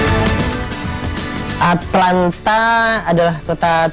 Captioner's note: non-english speech